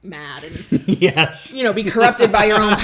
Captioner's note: laughs